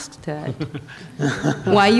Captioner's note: laughter